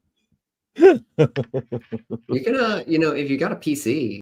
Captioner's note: laughs